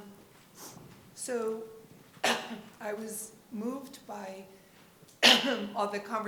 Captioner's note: coughs